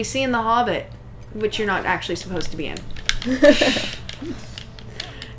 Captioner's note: laughter